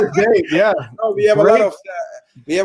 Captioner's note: all laugh